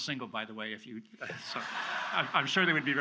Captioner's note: audience laughs